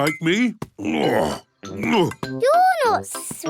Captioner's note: grunts